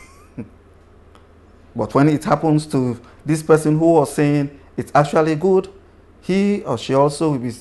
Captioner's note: laughs